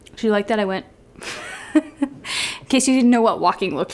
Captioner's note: giggles